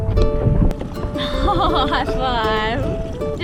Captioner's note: laughs